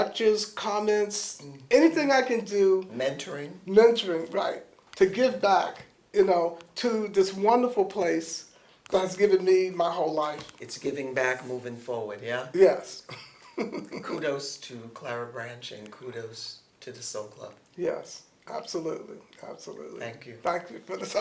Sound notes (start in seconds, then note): 13.0 laughs